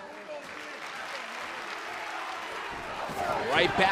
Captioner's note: applause